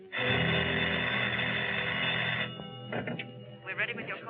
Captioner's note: phone rings